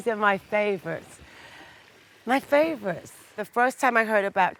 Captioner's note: water whooshing